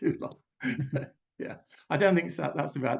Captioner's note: laughs; chuckles